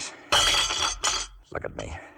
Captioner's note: glass clattering